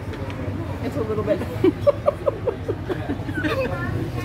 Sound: laughing

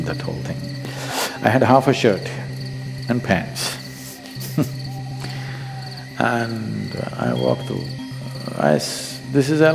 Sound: laughs

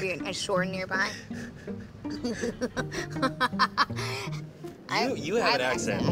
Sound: laughing

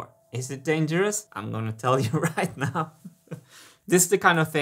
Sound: chuckles

